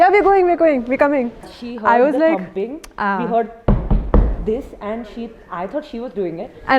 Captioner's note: imitates thumping